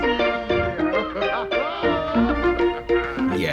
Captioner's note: Sebastian laughs